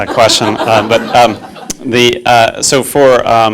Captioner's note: class laughing